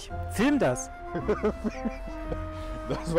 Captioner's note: laughs loudly